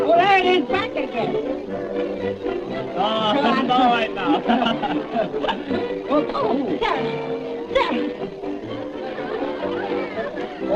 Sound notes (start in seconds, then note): 4.2 raucous laughter